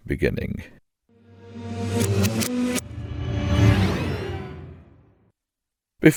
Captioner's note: time rewinding